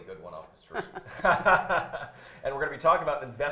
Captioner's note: laughing